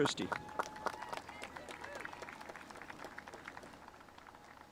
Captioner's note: spectators applauding